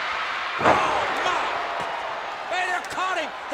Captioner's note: Vader thuds